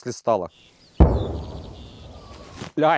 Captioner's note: mortar firing